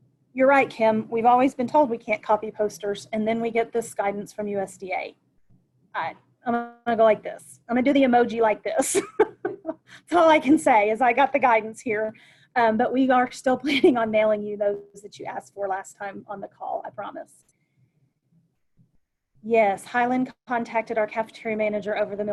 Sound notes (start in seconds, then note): 9.2 laughs